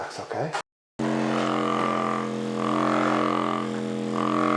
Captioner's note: machine vibrating